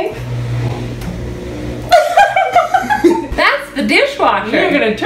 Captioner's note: dishwasher whirs; laughs